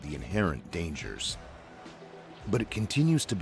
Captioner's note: voiceover